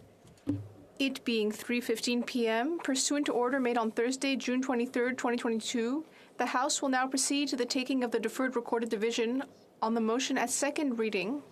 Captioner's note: speaking French